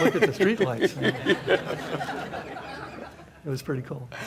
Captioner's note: audience laughs